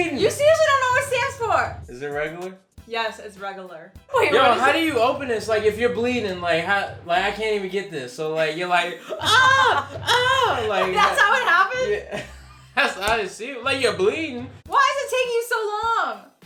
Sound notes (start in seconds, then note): 8.5 imitating screams; 16.2 dramatic beat